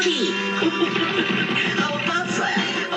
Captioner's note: chuckling